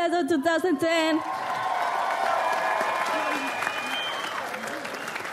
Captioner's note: audience applauds